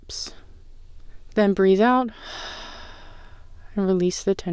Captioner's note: exhales